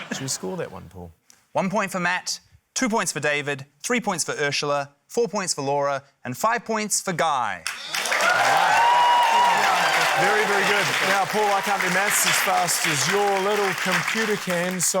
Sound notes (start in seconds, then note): 0.0 laughter; 8.8 cheering, applause